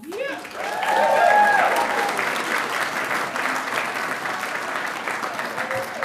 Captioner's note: audience applauding and cheering